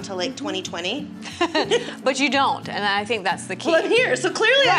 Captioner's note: laughs